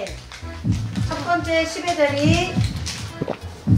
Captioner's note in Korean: 두근두근